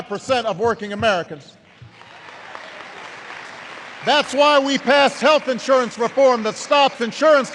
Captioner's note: applause